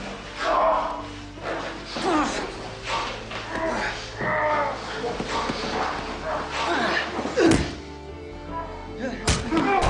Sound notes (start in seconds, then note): 1.1 grunting